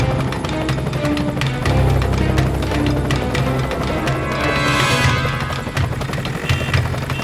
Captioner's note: dramatic music continues; helicopter whirring